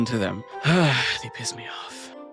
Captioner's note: sighs